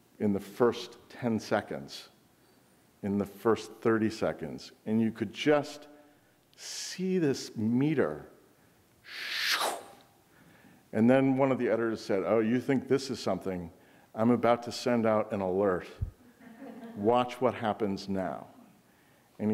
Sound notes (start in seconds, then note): 9.2 whooshing